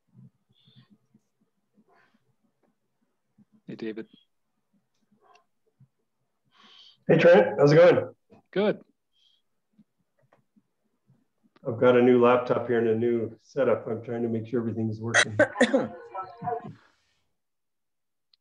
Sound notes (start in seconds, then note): 15.1 someone coughing